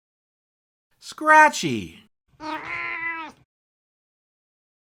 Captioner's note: meow!